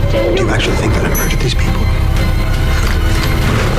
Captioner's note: none